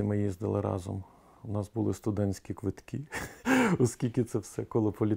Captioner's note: laughs